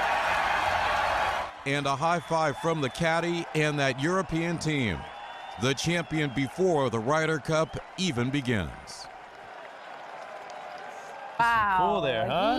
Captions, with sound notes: JUST WATCH. [CHEERS AND APPLAUSE] AND A HIGH FIVE FROM THE CADDIE AND THAT EUROPEAN TEAM.